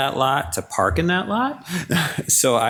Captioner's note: laughs